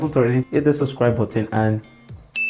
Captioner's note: hits bell